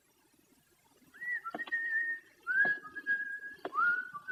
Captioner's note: continues whistling